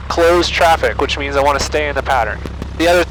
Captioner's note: traffic